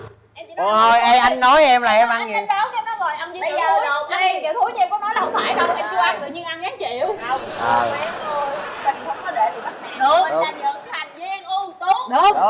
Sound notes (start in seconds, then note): 7.1 laughing